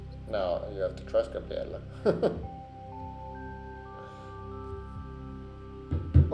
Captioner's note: chuckles